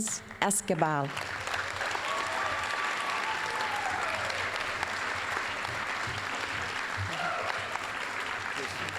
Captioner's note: applause, cheering; applause